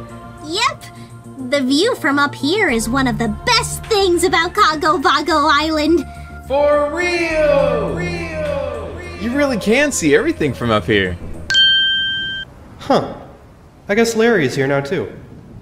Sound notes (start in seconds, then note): 7.2 echoing